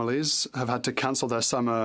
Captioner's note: speaking French